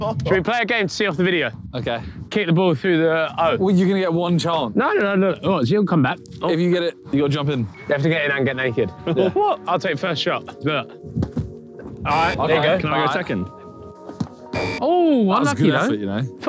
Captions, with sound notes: - Should we play a game to see off the video. - Okay. - Kick the ball through the O. - Well, you're gonna get one chance. - No, no, no, no, look, she'll come back. - If you get it, you gotta jump in. - You have to get in and get naked. - What? - I'll take first shot, look. [buzzer buzzing] Alright, there you go. - Can I go second? [buzzer buzzing] - Oh, unlucky though. - That was a good effort you know.